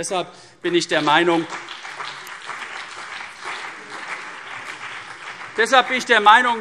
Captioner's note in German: Beifall CDU und BÜNDNIS 90/DIE GRÜNEN